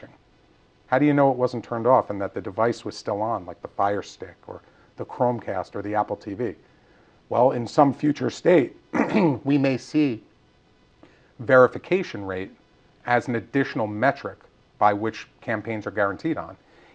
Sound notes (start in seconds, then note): 8.9 cough